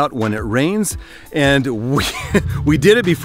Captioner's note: laughs